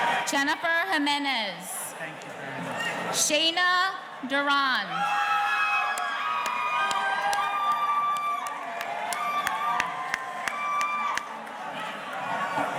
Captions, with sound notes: Jennifer Jimenez. - Thank you very much. - Shaina Duran. (audience cheering) (clapping)